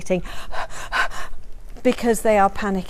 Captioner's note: pants